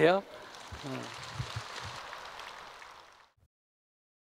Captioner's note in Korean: 청중 박수